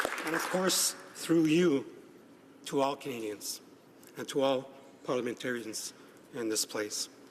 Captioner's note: applause